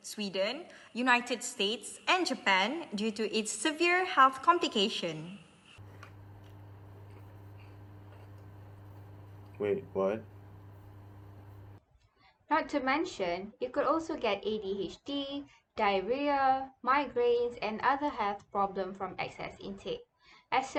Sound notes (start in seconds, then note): 5.8 eating cheese rings